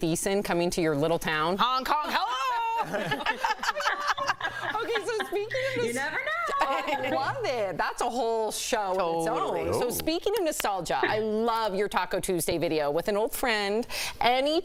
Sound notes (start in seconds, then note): 7.3 laughter